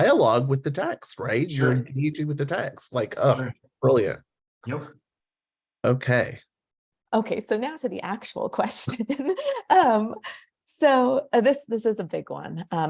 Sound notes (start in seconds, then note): 10.0 laughs